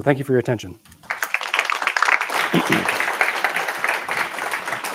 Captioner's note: applause